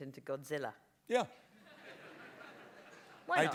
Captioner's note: laughter